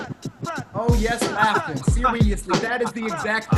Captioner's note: laughing